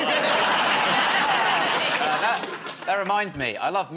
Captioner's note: laughter